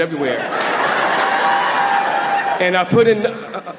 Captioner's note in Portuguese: Platéia ri